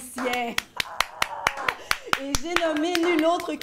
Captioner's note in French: applaudissement discret